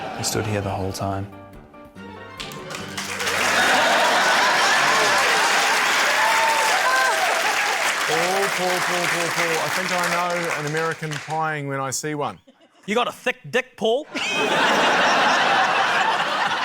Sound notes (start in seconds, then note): 3.0 cheering, applause; 14.0 laughter